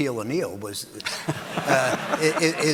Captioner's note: audience laughing